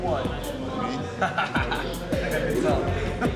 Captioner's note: inmate laughing